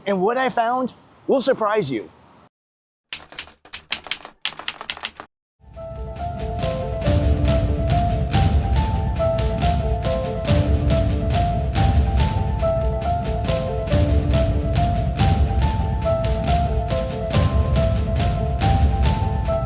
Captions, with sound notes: And what I found will surprise you. (keyboard keys clicking) (dramatic music) (dramatic music continues)